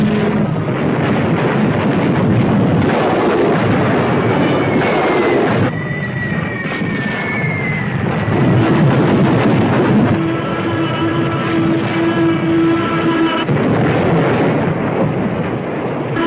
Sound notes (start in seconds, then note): 2.0 weapons firing; 5.6 missiles whistling; 8.2 explosion booming; 11.0 plane whooshing; 13.3 explosion booming; 16.0 plane whooshing